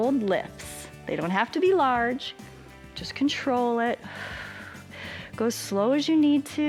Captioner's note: exhales